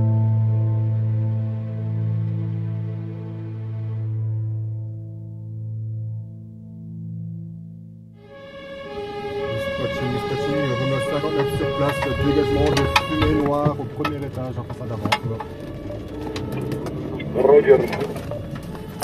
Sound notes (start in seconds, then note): 8.2 sirens